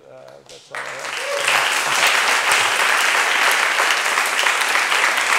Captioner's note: audience applauding